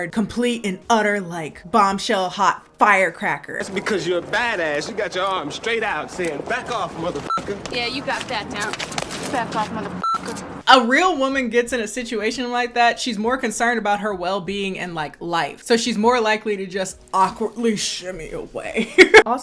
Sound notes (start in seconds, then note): 7.1 beep